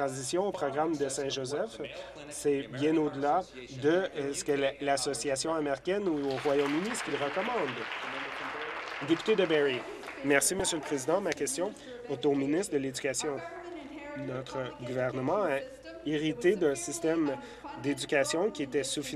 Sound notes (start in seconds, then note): 9.6 applause